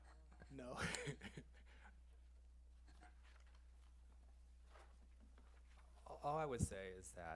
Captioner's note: laughs